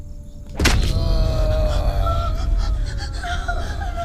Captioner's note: thudding; Bolo groans